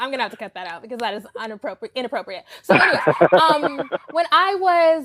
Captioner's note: laughing